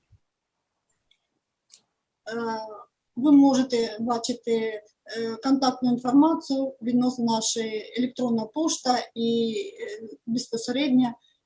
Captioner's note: foreign Language